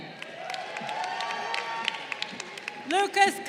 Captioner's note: crowd cheering